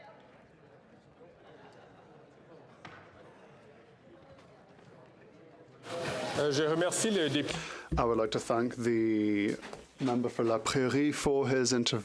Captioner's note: chatter